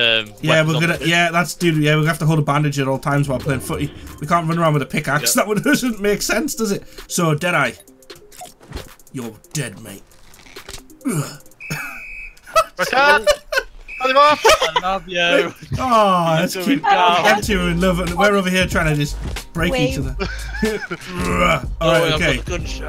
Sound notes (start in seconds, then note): 11.5 whistle blown